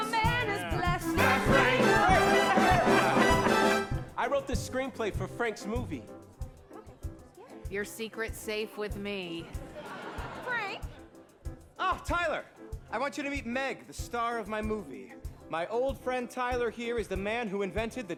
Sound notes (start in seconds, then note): 2.1 lively chatter, laughter